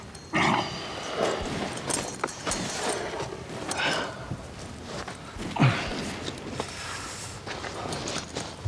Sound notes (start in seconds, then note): 0.2 grunts; 4.2 guns firing